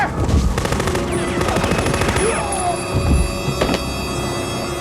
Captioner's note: machine gun firing; alarm wailing; ominous music